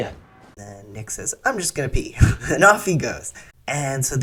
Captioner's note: laugh